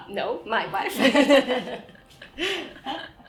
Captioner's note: laughing